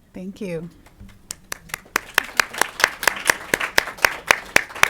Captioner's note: audience applauding